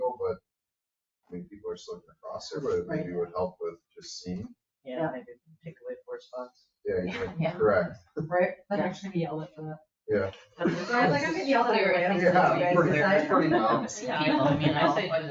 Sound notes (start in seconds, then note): 10.1 people chattering